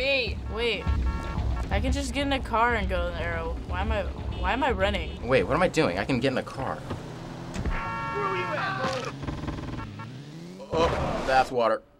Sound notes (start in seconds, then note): 7.6 car honks